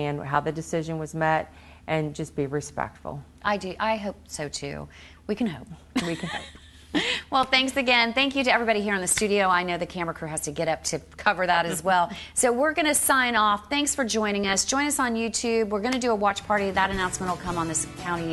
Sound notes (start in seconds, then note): 5.6 laughing; 11.6 laughing